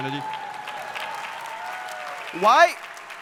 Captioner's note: audience cheering